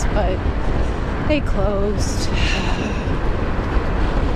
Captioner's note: sad sigh